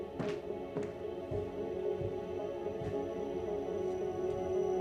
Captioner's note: footsteps echo